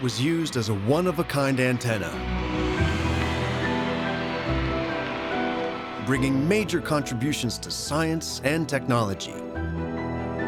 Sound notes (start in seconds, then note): 2.9 cheering